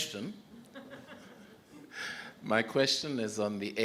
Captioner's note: audience laughs